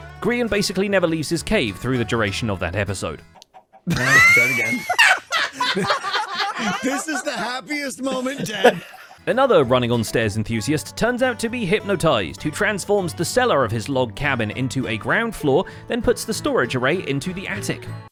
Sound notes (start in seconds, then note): 3.9 wheeze-laughs